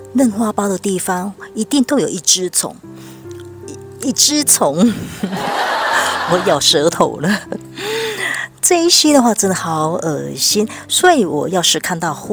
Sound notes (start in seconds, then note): 5.3 laughing